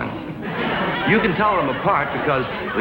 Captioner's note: audience laughs louder